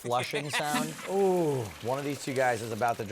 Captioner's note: flushing